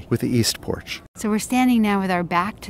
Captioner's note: voiceover